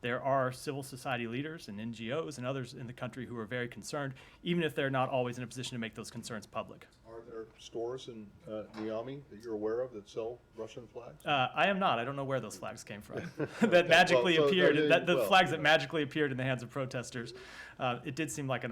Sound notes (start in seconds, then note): 13.1 laughter